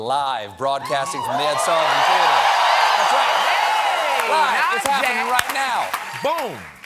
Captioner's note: cheers and applause